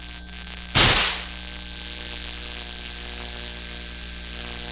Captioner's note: lights snap